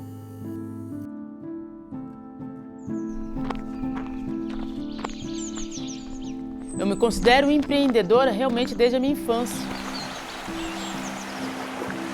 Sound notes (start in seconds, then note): 0.2 calm music; 3.3 nature sounds; 10.1 calm music continues